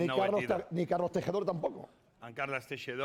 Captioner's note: speaking spanish